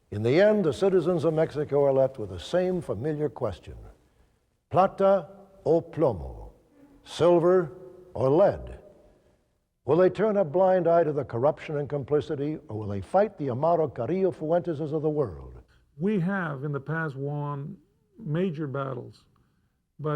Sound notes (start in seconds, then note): 3.8 speaks Spanish